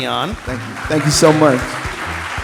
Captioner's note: audience applauding